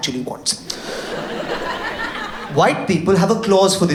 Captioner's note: audience laughs